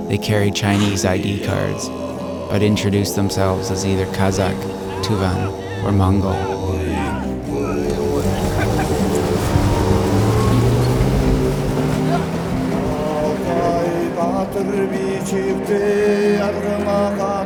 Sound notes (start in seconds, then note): 6.0 grunting; 7.4 laughing